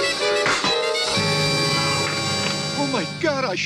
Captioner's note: dramatic music; BB gun popping